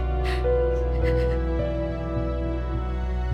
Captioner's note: sobs; crying